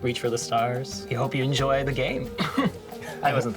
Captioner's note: chuckles